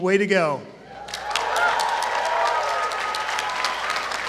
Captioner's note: applause